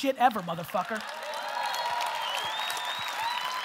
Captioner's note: audience laughter and applause